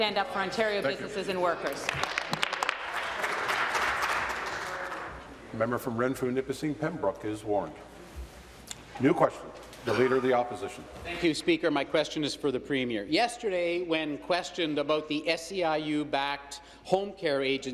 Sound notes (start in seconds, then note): 6.1 applause